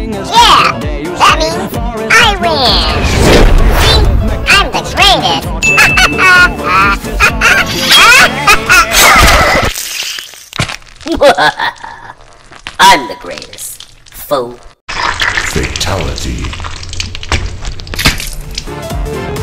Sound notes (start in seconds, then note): 5.8 continues laughing; 11.1 laughs